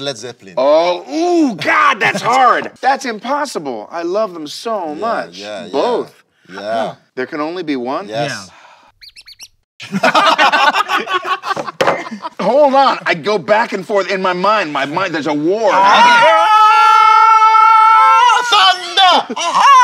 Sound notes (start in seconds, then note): 8.3 sigh